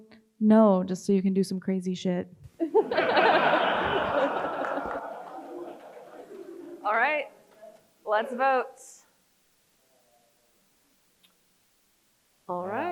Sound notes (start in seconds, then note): 2.6 crowd chuckles; 2.6 laughs